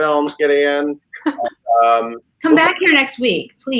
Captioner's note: laughing